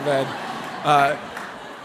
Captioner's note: laughter